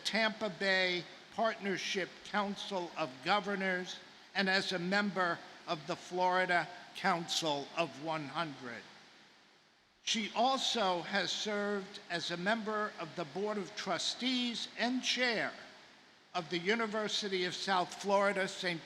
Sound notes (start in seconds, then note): none